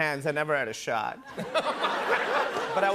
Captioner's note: laughter